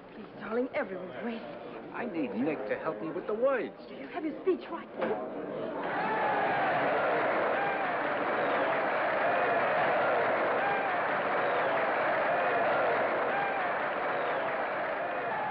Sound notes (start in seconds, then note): 5.8 audience cheers and applauds